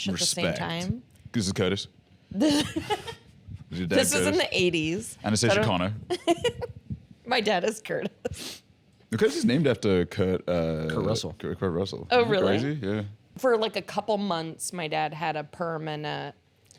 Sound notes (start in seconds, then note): 2.4 laughs; 6.2 laughs